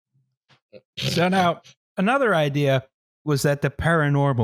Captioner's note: snorts